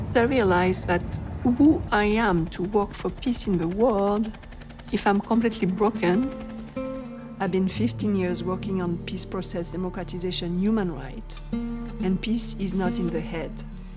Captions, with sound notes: I realise that who I am, to work for peace in the world, if I'm completely broken. (helicopter whirs) I've been 15 years working on peace processes, democratisation, human rights, and peace is not in the head.